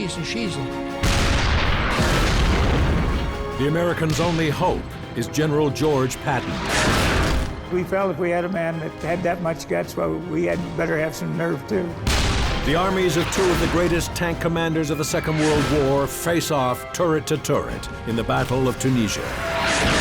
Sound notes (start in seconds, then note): 1.0 shell exploding; 1.0 tank turret firing; 6.5 shell exploding; 12.0 tank explodes; 12.0 cannon fires; 19.8 truck exploding